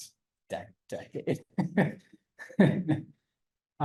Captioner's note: laughs